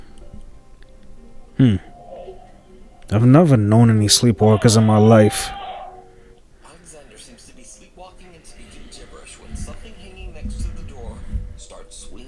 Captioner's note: screams